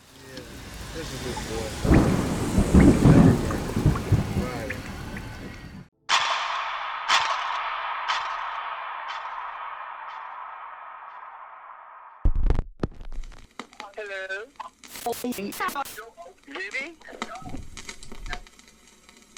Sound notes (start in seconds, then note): 0.1 thunder rumbling; 0.1 people chattering; 6.1 clock ticking; 13.2 static hissing